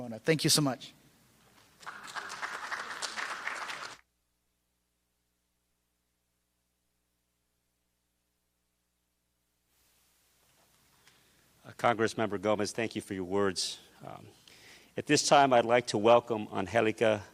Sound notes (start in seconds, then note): 4.6 applause